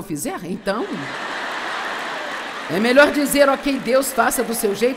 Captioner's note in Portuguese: audiência ri